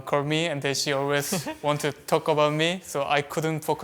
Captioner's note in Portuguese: risos